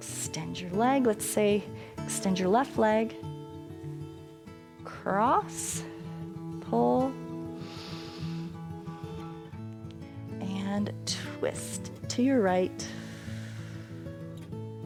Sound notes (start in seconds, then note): 7.5 inhales; 12.8 exhales